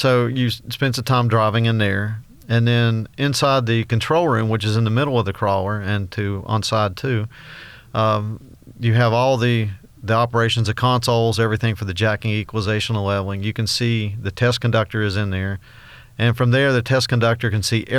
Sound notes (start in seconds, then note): none